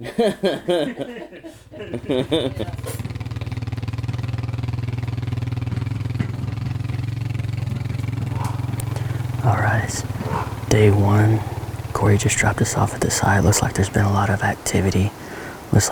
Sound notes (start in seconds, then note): 0.2 laughs; 2.8 engine rumbling